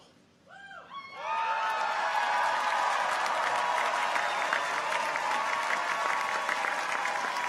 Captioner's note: people cheer; audience applauds